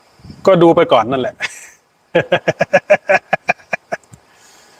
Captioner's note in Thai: เสียงหัวเราะ